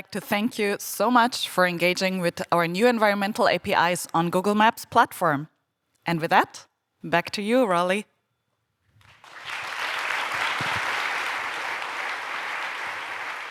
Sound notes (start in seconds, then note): 9.0 applause